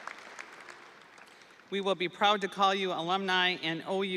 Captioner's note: audience applauding; audience cheering